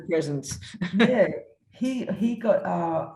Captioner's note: chuckles